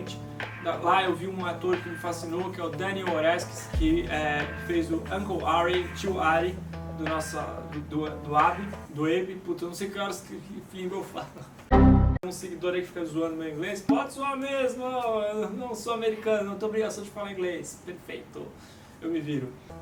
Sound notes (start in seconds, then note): 7.2 Portuguese accent; 8.9 English accent